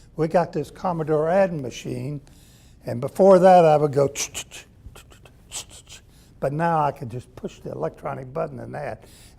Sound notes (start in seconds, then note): 4.4 making typing noises